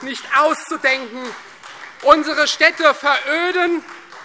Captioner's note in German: Heiterkeit und Beifall Freie Demokraten